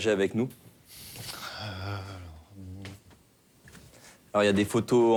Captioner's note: footsteps on floor